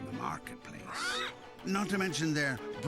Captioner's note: squawks